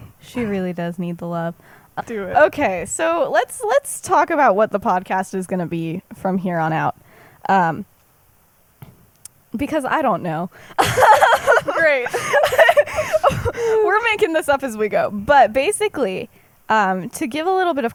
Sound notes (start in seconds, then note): 10.7 laughs